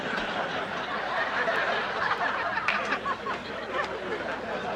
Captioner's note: audience laughs